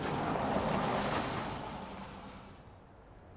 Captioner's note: none